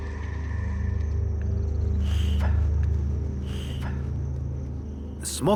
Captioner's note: puffing